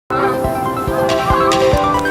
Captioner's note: geese honking